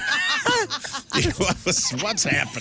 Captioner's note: laughing